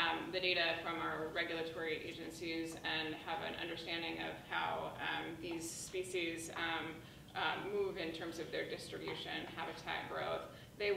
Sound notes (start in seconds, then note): none